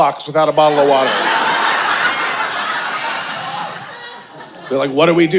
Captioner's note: audience laughing